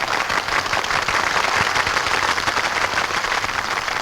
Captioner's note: patrons clap